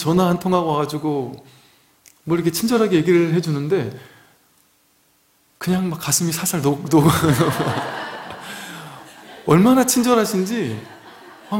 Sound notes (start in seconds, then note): 7.0 laughs